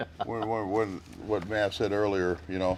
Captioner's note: laughs